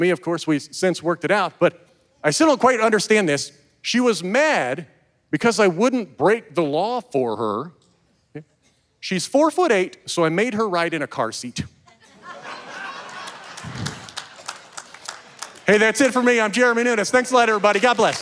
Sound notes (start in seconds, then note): 12.0 audience laughing and cheering